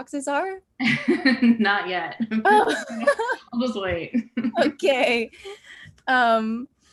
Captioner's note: laughs